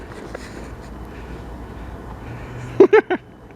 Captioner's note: laughing